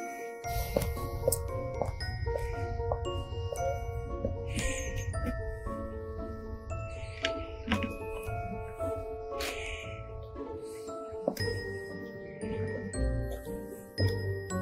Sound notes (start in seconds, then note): 2.1 footsteps; 10.8 mysterious music continues